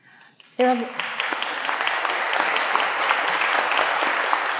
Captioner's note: audience clapping